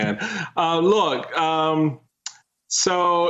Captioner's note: laughing